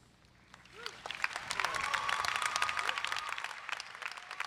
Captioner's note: crowd applauds